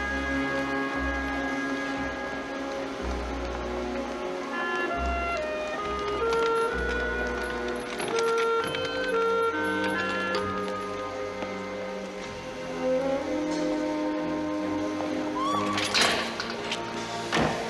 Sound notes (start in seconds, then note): 15.3 train whistle blows